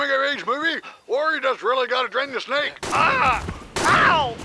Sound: Simmons yells in pain

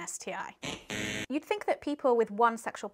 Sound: buzzer buzzing

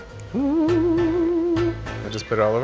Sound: hums

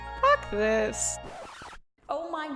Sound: fantastical music; record scratching

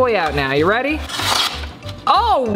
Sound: paper tears

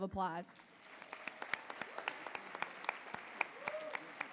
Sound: applause

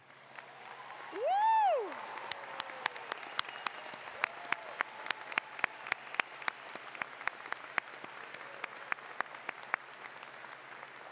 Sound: cheers and Applause

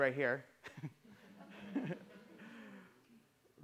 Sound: laughter

